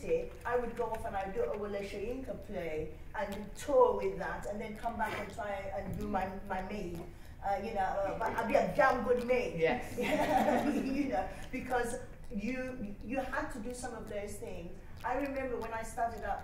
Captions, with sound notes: I would go off and do a Wole Soyinka play and tour with that and then come back and do my maid. But I'd be a damned good maid! (LAUGHTER) Because you had to do some of those things. I remember when I started out,